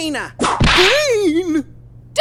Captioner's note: whip crack